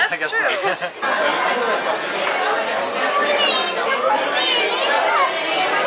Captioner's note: loud restaurant noises; laughter